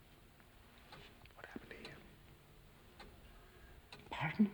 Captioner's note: whispering